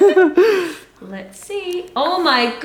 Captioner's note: laughter